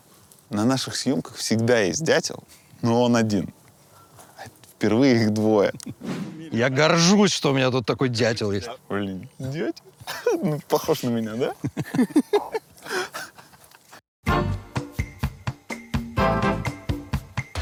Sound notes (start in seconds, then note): 12.6 all laugh; 14.2 title card music